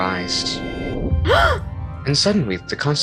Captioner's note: gasps